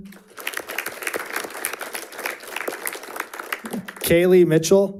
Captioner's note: audience applauding